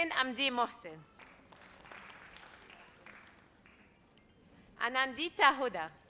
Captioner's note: audience applauds